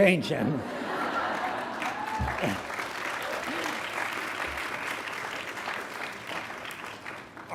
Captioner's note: graduates clapping; graduates cheering